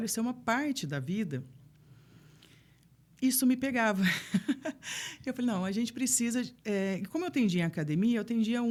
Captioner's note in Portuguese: risadas